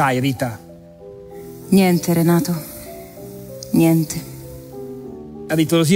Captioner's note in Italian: voce di donna fuori campo